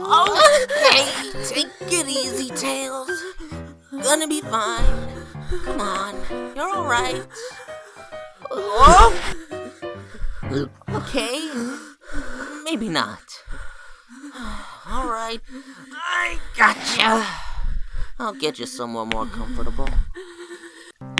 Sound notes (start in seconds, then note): 17.0 sigh